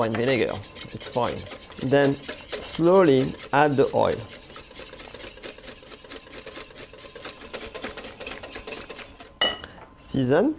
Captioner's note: whisking sounds